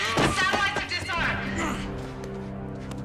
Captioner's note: groan